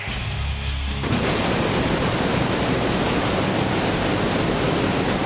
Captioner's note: pyros exploding